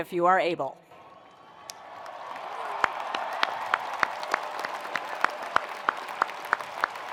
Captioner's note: attendees cheering; attendees applauding